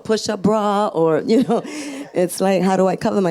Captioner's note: laughs; audience laughs